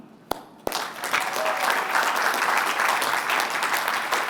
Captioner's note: applause